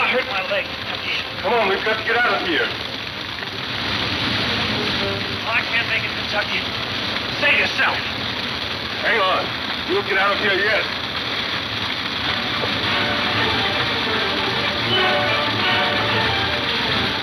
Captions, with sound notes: - Oh, I hurt my leg, Kentucky. - Come on, we've got to get out of here. (fire whooshing) - I can't make it, Kentucky. Save yourself. - Hang on. You'll get out of here yet. (dramatic music)